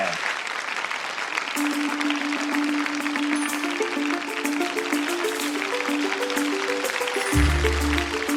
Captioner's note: applause